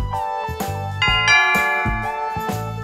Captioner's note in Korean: 띵~동